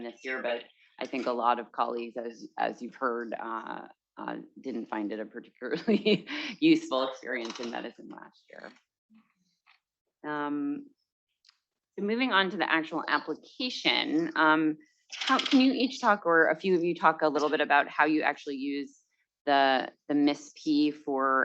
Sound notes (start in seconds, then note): 6.4 chuckles